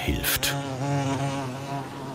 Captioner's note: loud bee humming